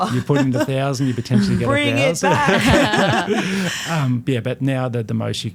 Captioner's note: laughing